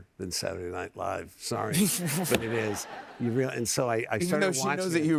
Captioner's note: laughter